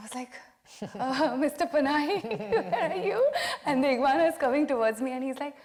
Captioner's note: laughing